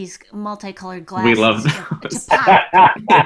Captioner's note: laughing